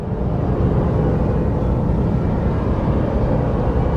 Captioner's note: roaring white noise